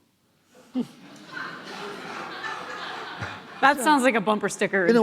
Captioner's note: laughing